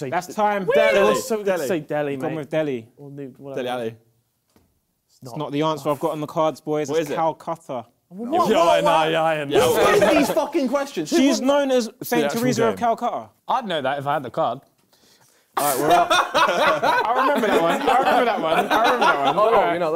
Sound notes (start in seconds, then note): 15.7 both laughs